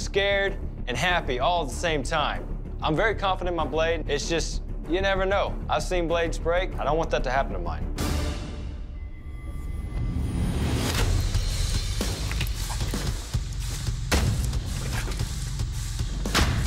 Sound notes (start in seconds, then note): 10.3 impact sounds